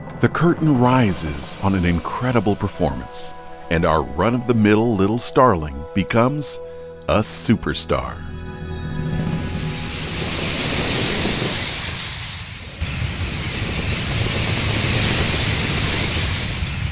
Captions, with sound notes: the curtain rises on an incredible performance. And our run-of-the-mill little Starling becomes a superstar. (wings swooshing) (birds chirping)